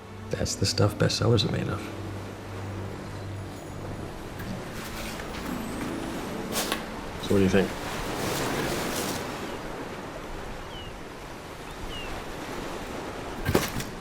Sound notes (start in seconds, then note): 2.7 ocean waves rolling in; 10.0 seagulls and ocean waves rolling in